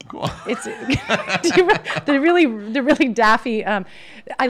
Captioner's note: laughs